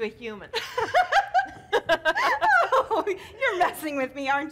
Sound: Zina loudly laughing

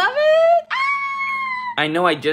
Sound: screams

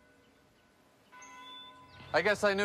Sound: bell ringing

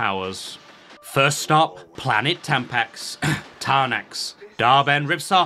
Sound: cough

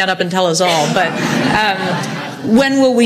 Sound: audience laughs

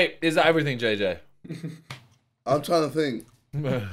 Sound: men laughing

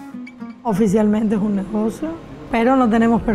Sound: speaking spanish

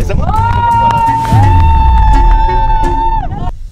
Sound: cheering

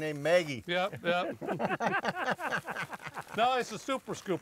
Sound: everyone laughs

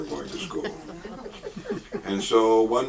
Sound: audience chuckles

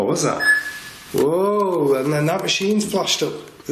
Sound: alert beeping

